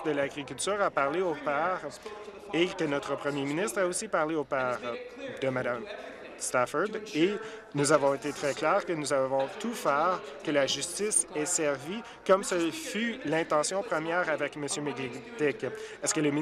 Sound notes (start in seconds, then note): none